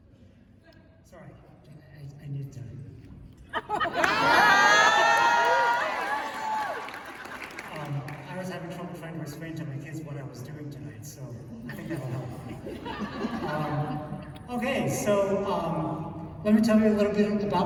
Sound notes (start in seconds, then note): 11.6 laughter